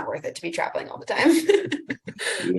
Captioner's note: laughs